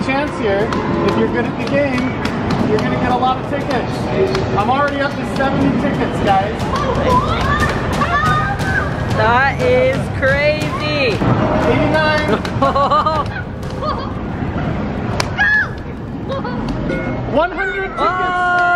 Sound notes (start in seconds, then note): 7.0 cheering; 12.1 laughing